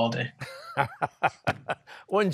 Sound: laughing

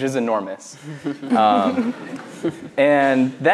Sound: laughs

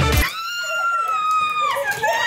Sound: shrieks and claps

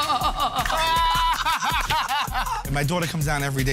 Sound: laughter; laughing

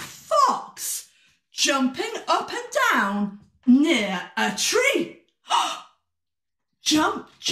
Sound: gasp

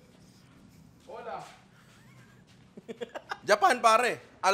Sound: laughs

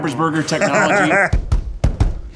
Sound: Ned laughs; rhythmic drumming

